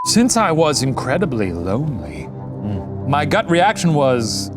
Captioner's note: broadcast signal; hums